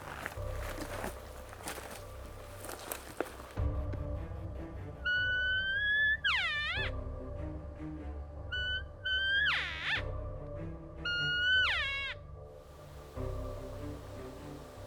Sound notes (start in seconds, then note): 4.9 elk lure sounds